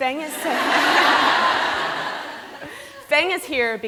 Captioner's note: laughter